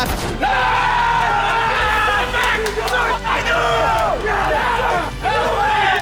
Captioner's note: FaZe Clan cheering and clamoring